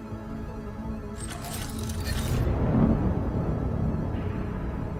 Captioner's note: clinking